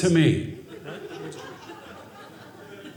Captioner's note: audience laughing